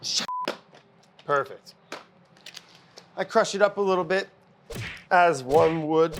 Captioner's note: punching sounds